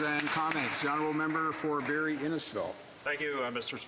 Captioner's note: applause